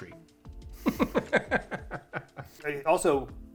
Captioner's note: chuckling